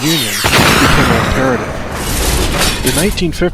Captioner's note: rockets fire